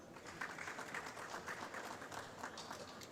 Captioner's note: applause